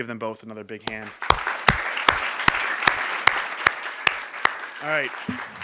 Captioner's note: applause